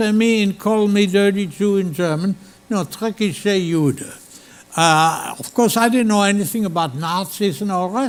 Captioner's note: speaking German